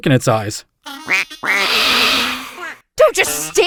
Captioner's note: quack-quack-hiss